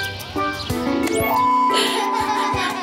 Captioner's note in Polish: płacze